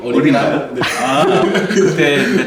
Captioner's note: laughs